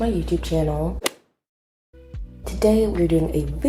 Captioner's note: golf hit sound effect